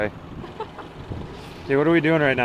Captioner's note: laughing